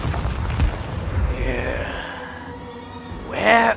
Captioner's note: frustrated noises